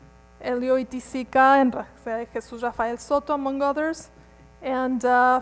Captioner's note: speaks quickly